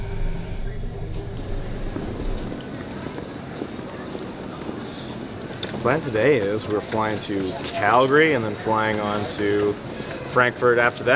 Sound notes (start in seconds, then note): 2.1 footsteps